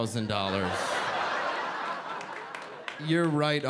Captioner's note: audience laughing